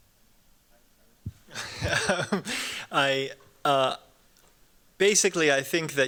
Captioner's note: chuckles